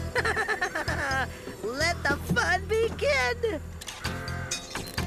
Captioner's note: laughing